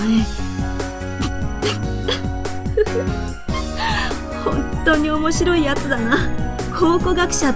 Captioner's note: giggles